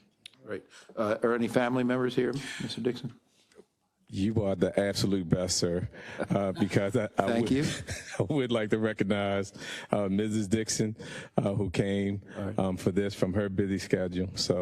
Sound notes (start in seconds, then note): 6.0 laugh